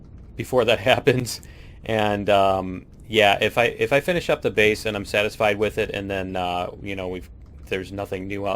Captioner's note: laughs